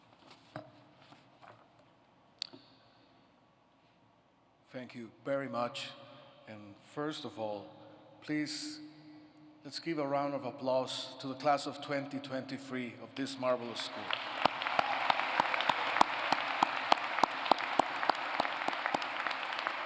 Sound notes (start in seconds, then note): 13.6 applause